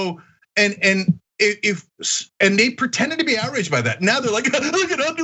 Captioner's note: laugh